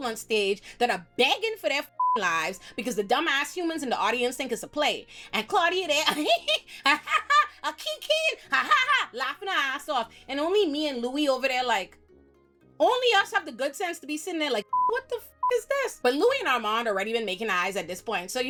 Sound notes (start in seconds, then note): 1.9 beep; 6.0 laughs; 14.6 beep